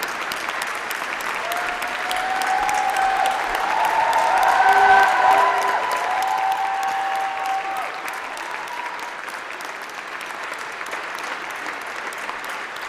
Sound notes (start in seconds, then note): 9.4 applause